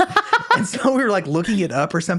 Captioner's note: laughs